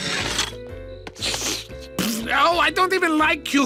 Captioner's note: slurping; spitting